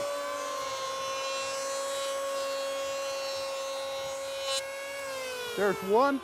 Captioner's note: planer whirring